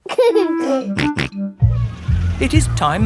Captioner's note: giggling and snorting